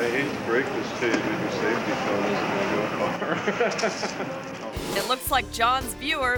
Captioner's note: laughing